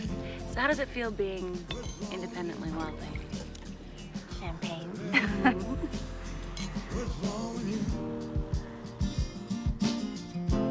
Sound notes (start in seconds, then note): 6.4 glass clinking